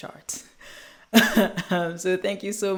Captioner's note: chuckles